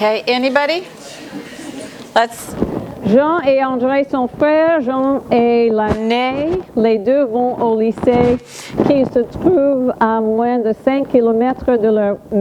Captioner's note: reading French